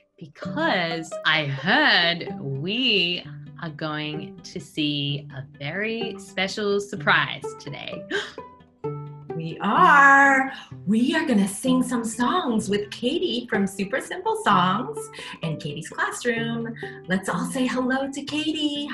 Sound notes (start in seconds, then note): 8.0 gasp